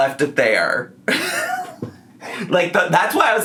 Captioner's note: laughing